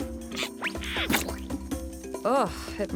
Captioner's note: splat